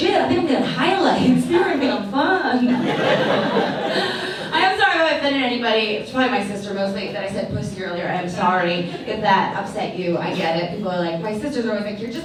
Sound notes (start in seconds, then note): 2.6 audience laughs